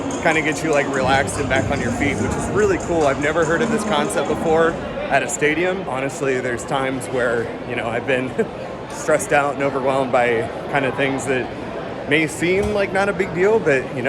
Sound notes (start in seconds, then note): 8.4 laughs